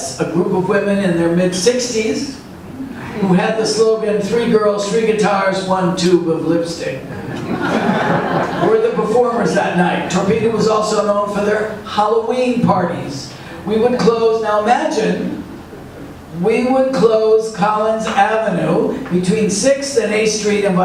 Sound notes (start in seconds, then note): 7.0 audience laughs